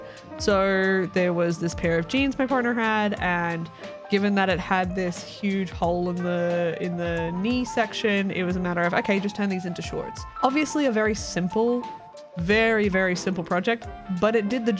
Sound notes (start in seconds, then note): none